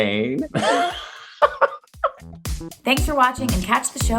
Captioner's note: laughs